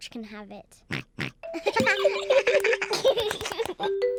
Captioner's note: oinks; all giggling